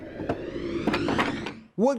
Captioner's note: whooshing